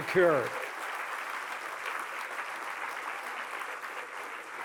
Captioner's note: applause